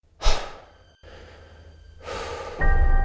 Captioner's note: breathing